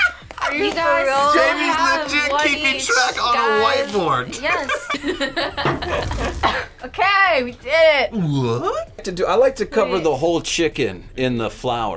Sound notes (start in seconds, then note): 4.3 laughs